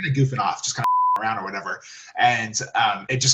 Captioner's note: beep